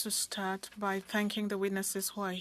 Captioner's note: speaking French